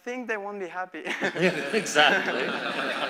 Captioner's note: laughter